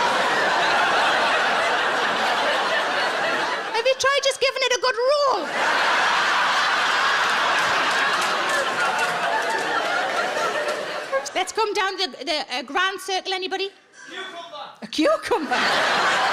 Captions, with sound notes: Maybe try just giving it a good roll? (audience laughs) Let's come down the grand circle, anybody? - Audience member Cucumber! - A cucumber!?